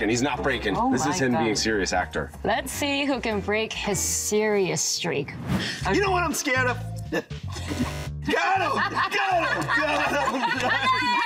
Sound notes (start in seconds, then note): 8.3 all laughing; 8.4 Kevin laughs